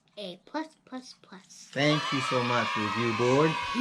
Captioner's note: cheering